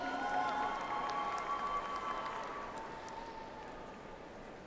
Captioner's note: audience applauds